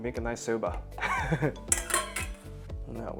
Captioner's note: laughs